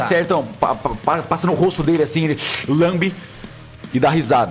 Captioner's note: slurp